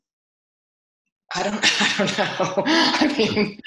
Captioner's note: laughs